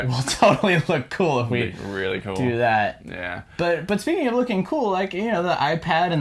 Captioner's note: sarcastically